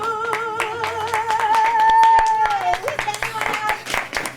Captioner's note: applause